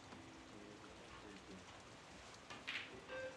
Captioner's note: thunder rumbles